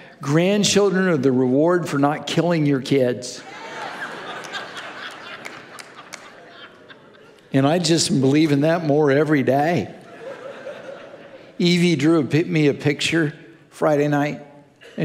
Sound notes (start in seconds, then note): 3.4 congregation laughing